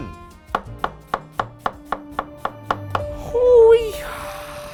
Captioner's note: chopping onions